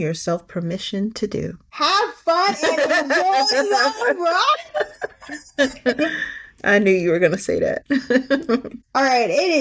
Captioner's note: laughing